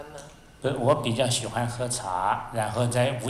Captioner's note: Mandarin